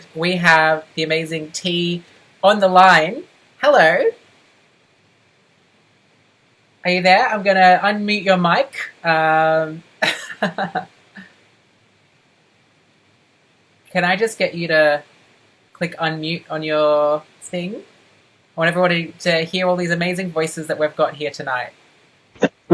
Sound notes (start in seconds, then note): 10.6 laughs